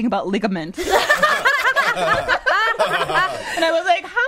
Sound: all laughing

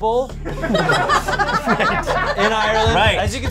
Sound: audience laughs

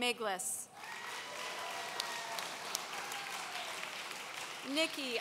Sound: audience cheering

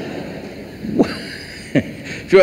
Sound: laughs

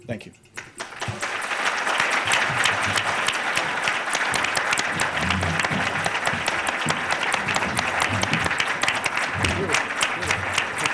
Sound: applause

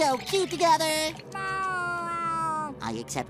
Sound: meowing

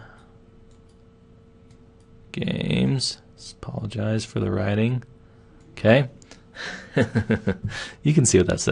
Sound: laughing

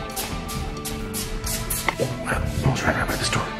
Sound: feet shuffling

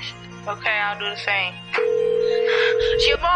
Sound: phone line ringing

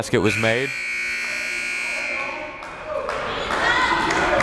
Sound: timer buzzes

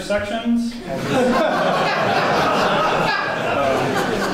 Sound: audience laughs

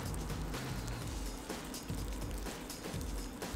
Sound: cereal popping

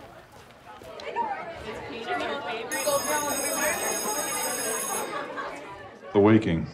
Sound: school bell rings

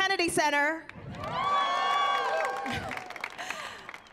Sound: cheering

